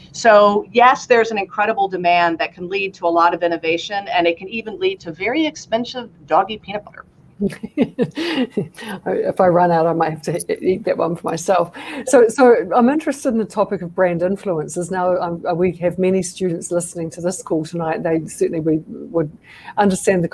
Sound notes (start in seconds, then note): 7.4 laughter